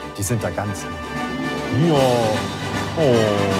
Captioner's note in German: Verzückte Laute